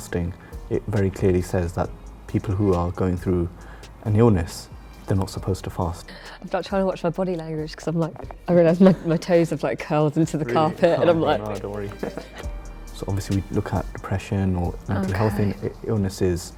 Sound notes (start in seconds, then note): 10.5 laughs